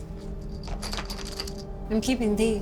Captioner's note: coins jingle